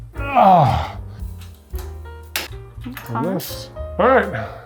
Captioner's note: groans